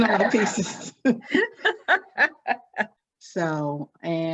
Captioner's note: laughs